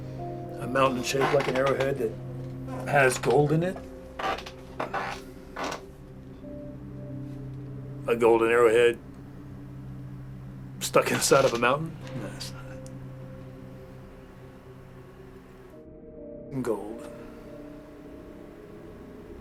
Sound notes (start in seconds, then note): 4.0 chair creaking; 11.6 mutters